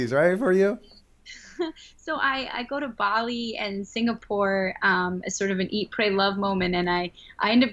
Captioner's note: chuckle